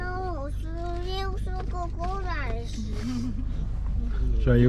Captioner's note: speaking Dutch